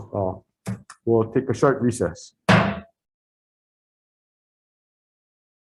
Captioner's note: gavel bangs